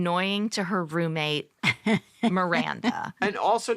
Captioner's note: chuckles